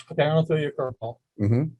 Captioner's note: murmurs